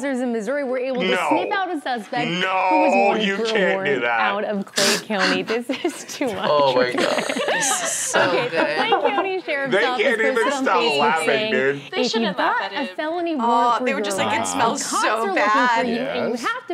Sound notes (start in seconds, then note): 4.8 laughs